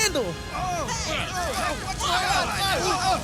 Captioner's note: clamouring